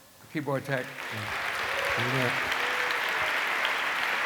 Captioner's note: applause